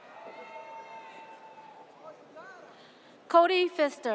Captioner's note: audience cheers